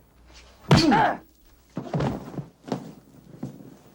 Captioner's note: punch thudding